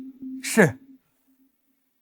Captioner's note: deep sigh